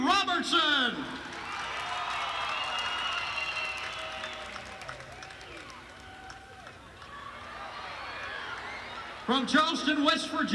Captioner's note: crowd cheering